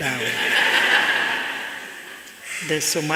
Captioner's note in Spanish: Risas